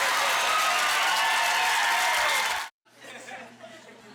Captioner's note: applause